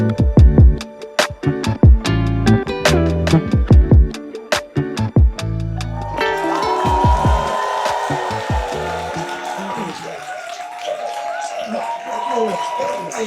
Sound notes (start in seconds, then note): 5.7 crowd cheers; 5.7 crowd claps